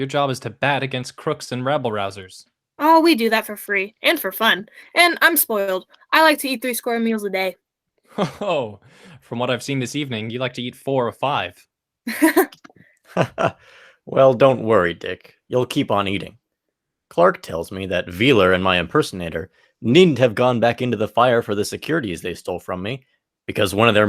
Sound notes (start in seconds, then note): 13.1 laughs